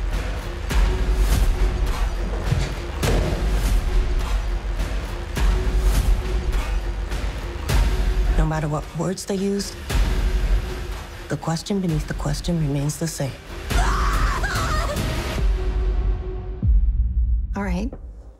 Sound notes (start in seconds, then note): 15.3 screaming